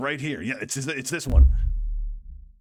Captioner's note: excplosion